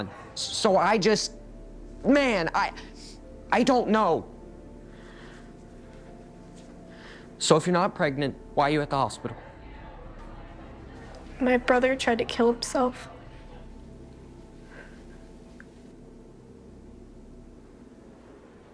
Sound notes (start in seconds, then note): 4.9 Jack inhales deeply; 9.3 people chattering